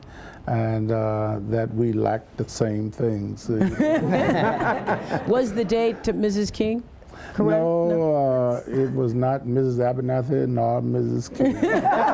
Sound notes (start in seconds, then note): 3.6 laughter